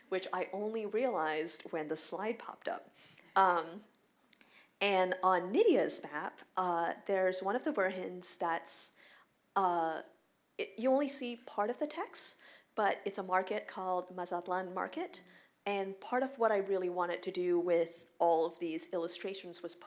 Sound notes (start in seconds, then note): none